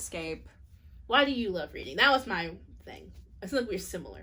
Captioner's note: none